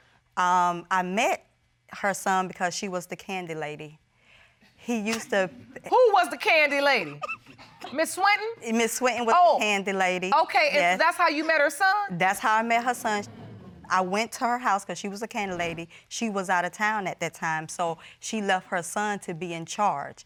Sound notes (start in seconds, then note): 5.1 laughs